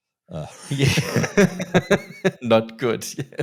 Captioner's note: both laughing